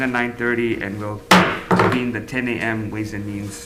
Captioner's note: gavel bangs